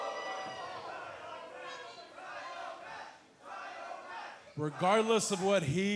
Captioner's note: crowd chatter